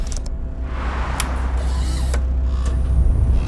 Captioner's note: retro PC and printer sounds